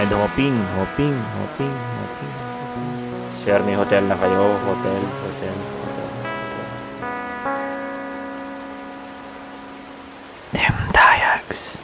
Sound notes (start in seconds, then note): 7.5 echo; 8.0 waves crashing on the beach